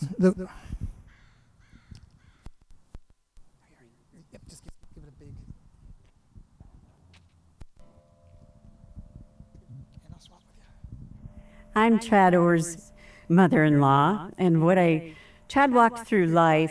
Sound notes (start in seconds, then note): 5.9 bell tolls